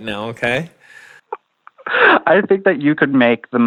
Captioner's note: laughs